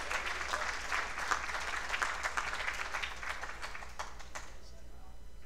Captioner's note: applause